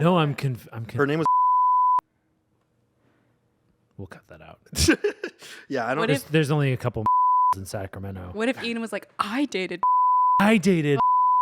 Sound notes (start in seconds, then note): 1.2 beep; 4.7 laughs; 7.1 beep; 11.0 beep